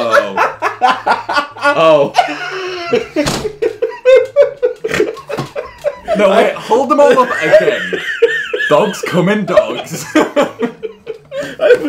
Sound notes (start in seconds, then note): 0.1 laughing; 3.2 table slamming; 9.5 everyone laughing